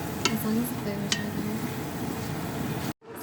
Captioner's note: sizzling noises